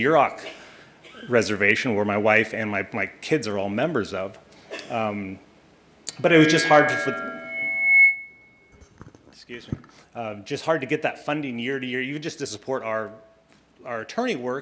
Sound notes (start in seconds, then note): 6.2 mic feedback